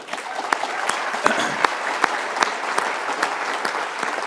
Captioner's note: applause